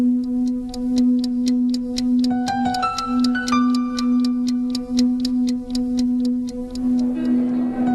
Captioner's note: tick-Tock